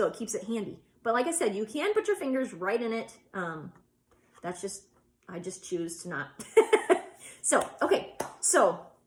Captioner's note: laughs